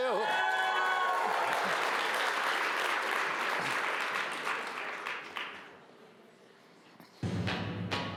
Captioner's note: applause